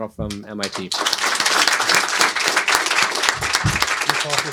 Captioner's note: applause